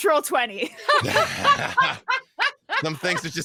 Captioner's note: group laughs